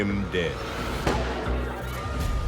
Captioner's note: gunshot; dramatic music